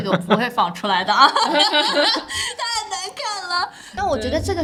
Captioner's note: laughs